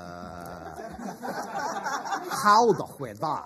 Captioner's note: laughter